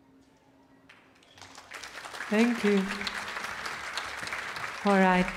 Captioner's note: audience applauding